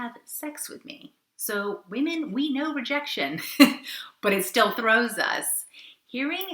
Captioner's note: laughs